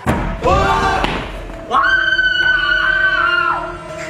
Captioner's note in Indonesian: Teriakan yang menyayat hati